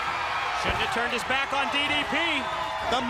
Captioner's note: crowd cheering